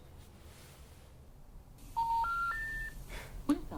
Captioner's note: disconnected tone